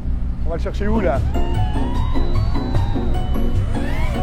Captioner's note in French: Bruit d’hélices